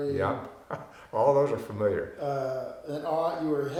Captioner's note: chuckling